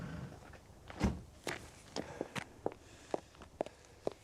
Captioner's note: door slams